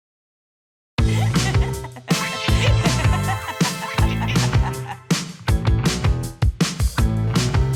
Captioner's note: laughter